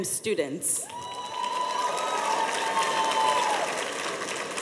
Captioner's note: cheers and applause